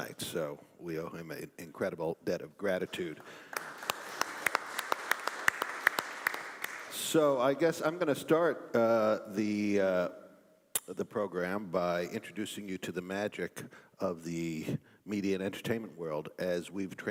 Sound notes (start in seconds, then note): 3.1 applause